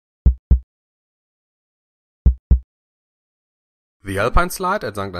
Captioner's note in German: Herzschlag